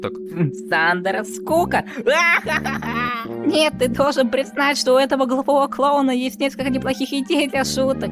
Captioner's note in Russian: смех